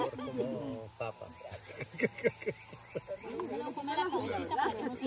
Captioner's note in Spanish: risas